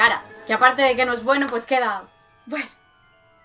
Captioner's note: sighs